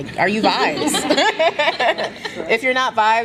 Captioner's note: laughter